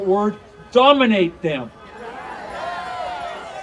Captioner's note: audience cheering